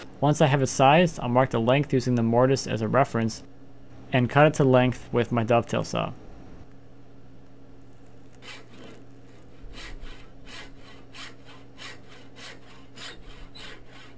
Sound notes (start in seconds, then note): 8.1 saw scraping